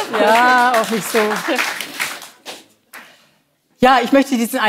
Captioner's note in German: Applaus